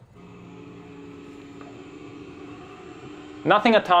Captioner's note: helicopter propellers whirring